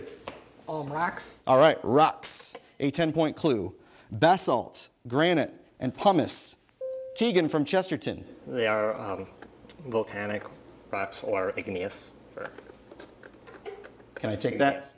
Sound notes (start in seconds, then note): 6.8 bell dings